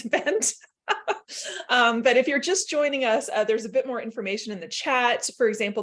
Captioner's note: laughter